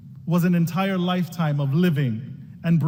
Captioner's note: none